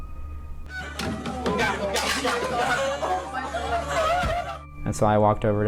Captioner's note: students screaming and crying